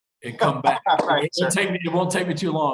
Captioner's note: laughs